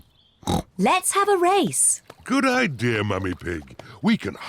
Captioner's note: snorts